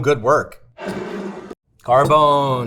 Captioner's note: jar scraping